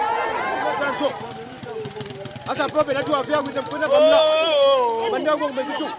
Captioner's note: speaking in foreign language